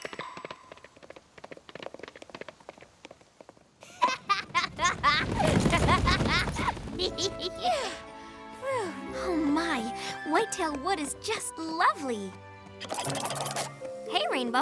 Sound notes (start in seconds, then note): 3.8 laughing; 7.6 twilight sparkle gasping